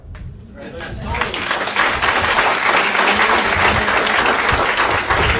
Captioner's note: audience applauding